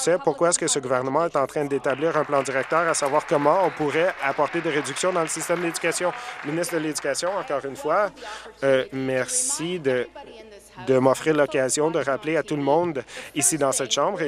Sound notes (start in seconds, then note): 5.8 applause